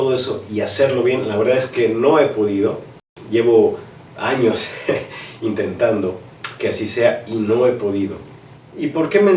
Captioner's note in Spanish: ríe